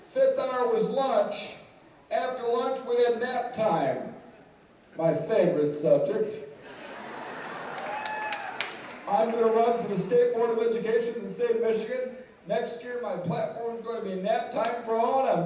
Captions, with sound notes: FIFTH HOUR WAS LUNCH. AFTER LUNCH WE HAD NAP TIME-- MY FAVORITE SUBJECT. (laughter and applause) I'M GOING TO RUN FOR THE STATE BOARD OF EDUCATION IN THE STATE OF MICHIGAN NEXT YEAR. MY PLATFORM IS GOING TO BE "NAP-TIME FOR ALL,"